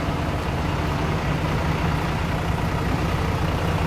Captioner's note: engine idling